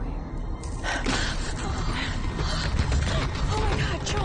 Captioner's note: gasping